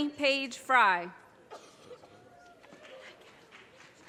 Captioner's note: audience cheers and applause